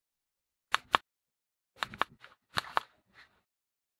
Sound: click

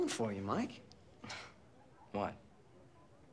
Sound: scoffs

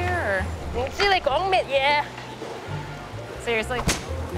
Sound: non-english speech

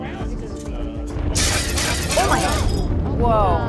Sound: glass breaks

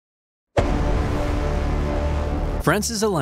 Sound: dramatic music; air whooshes

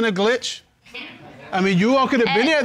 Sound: audience laughing

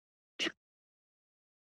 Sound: tongue clicks

